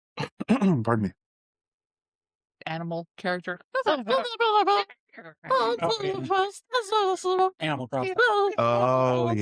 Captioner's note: Speaking Animalese